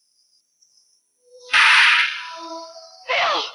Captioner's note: shot firing